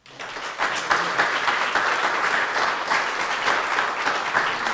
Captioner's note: audience applauding